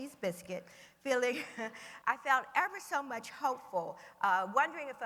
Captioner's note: laughs